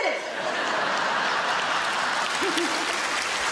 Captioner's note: audience laughing; audience clapping